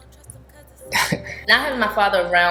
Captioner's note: chuckling